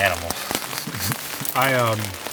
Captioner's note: chuckles